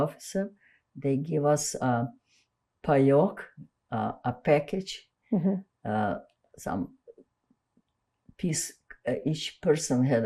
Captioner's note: russian